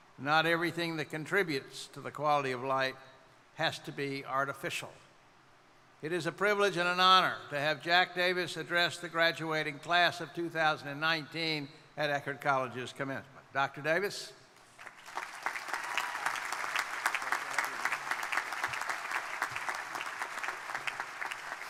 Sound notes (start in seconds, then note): 14.7 crowd applauding; 15.0 crowd cheering; 18.5 crowd applauding